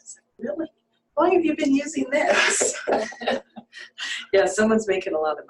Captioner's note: laughter